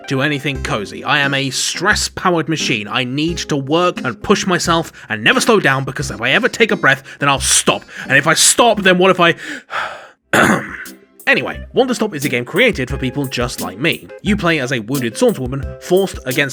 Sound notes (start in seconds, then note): 10.3 ahem